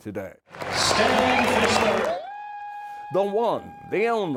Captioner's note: cheering